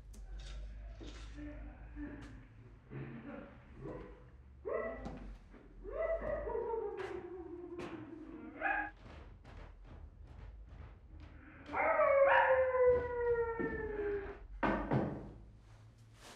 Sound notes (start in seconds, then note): 1.2 muffled grunts; 4.1 muffled barks; 8.9 muffled thuds; 11.5 muffled howls and barks; 14.5 knocks